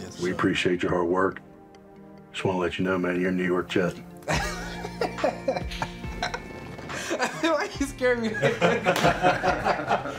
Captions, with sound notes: -Yes, sir. -We appreciate your hard work. Just wanna let you know, man, you're a New York Jet. (LAUGHS) I feel like you scared me there. (ALL LAUGHING)